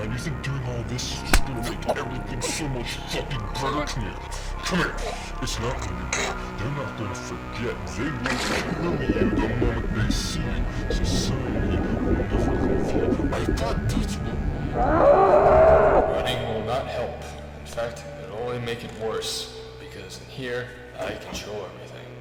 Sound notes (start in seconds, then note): 14.7 screaming